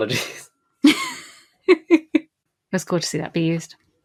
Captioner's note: laughs